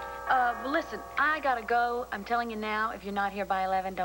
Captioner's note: doorbell rings